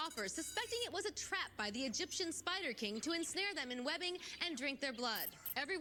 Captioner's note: alarm Bell Rings